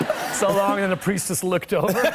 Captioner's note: laughter